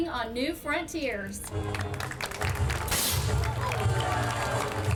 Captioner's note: audience claps